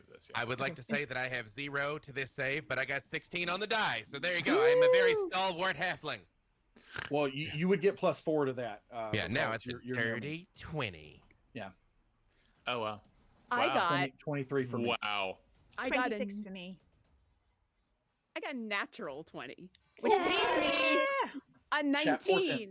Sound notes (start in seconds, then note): 20.0 all cheer